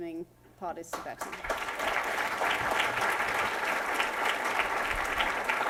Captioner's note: applause